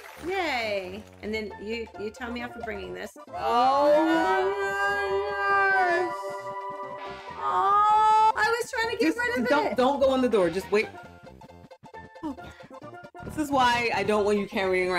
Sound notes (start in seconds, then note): 3.5 both slowed down speech